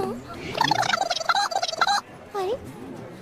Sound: malfunctioning noises

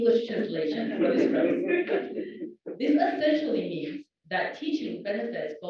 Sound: laugh

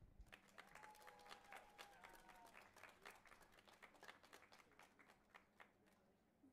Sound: audience applauding and cheering

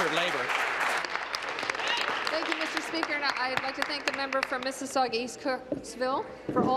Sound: applause

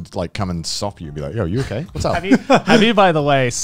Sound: laughing

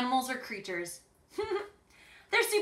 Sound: chuckles

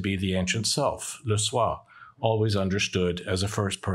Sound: speaks in French

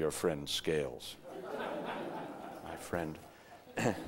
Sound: audience laughter

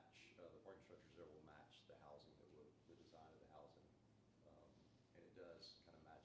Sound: background chatter

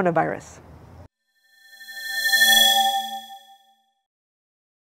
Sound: swoosh

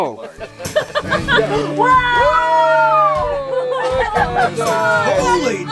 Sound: cheers

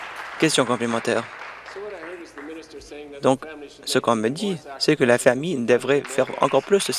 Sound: applause

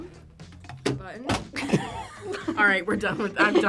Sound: object clatters; both laugh

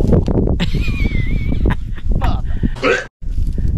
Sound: laughing

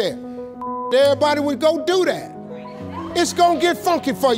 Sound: beep

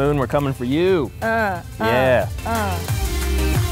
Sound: mock fighting sound effects; upbeat electronic music

